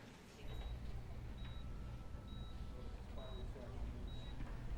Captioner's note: monitor beeping